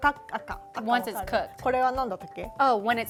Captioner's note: speaking Japanese